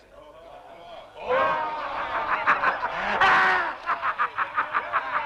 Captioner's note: chieftains laughing